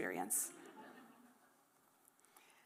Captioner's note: laughter